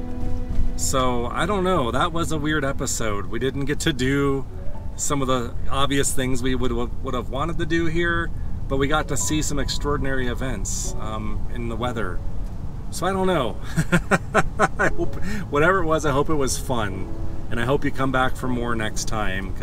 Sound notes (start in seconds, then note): 13.6 laughter